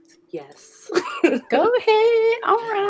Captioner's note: laughs